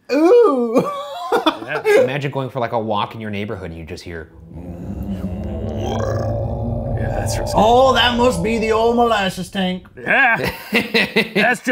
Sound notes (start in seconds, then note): 0.9 laughing; 4.2 both groaning